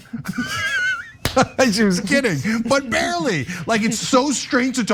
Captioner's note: laugh